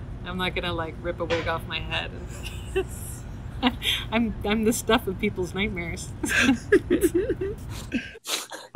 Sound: laughter

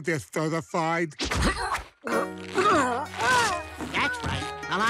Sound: groaning

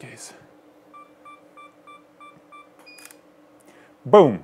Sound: camera snapping; camera beeping

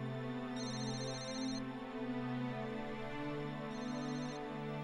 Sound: phone ringing

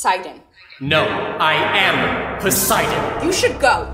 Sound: his voice echoing

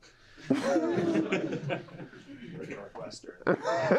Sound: laughter

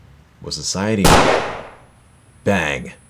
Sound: bang!

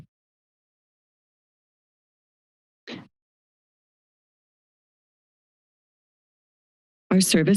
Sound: silence

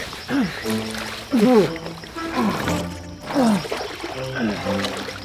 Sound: groaning with effort

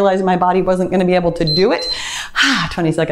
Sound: timer beeps

